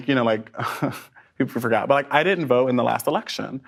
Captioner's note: laughs